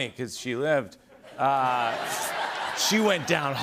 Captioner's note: laughter